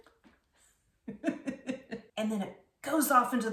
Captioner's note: laughing